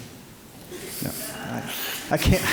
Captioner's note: audience chuckling